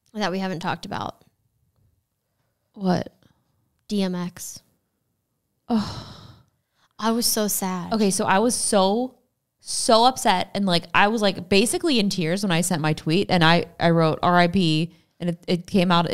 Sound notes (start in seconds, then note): 5.7 sighs